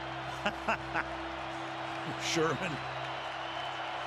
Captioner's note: laughs